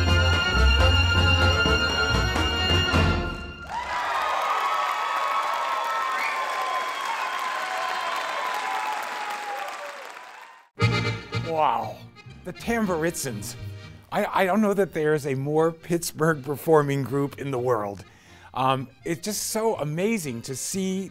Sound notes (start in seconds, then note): 0.1 clarinet squawking; 5.1 audience applauding